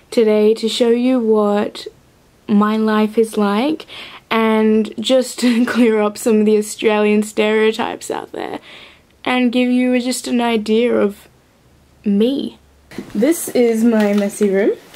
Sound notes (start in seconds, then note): none